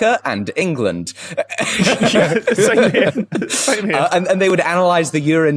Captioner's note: group laughing